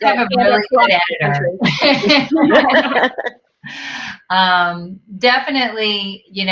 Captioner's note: all laughing